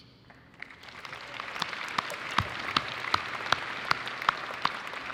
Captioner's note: audience applauding